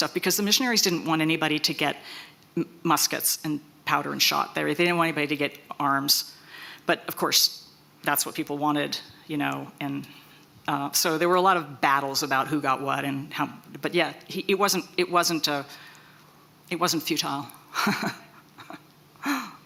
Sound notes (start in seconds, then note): 17.7 chuckles